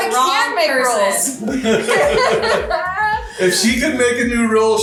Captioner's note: laughing